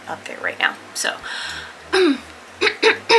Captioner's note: clears throat